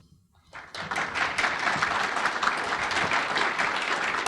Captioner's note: audience applauding